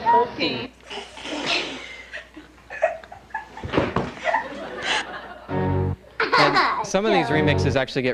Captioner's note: laughter